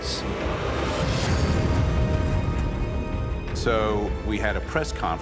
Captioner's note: loud collision